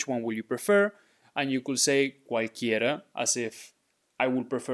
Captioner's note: speaking in Spanish